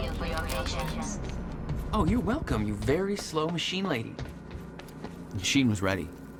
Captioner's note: mocking